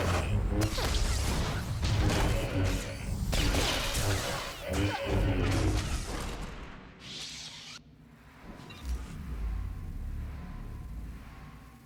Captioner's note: gunshots